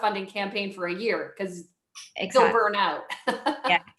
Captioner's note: chuckles